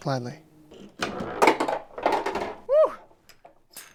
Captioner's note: ball clacking